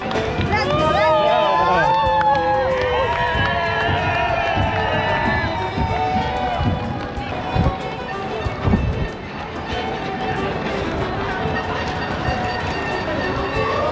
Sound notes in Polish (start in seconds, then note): 0.1 Aplauz